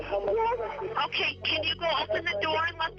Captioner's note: on phone